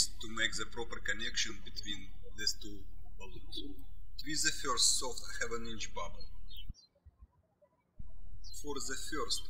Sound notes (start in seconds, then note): 7.1 birds chirping